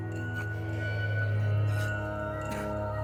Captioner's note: gurgling